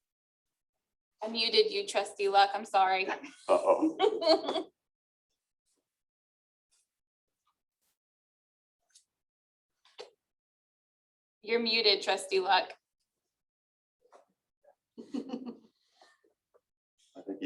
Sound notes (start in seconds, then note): 3.0 laughter; 12.8 laughter